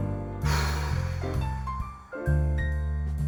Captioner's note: long sigh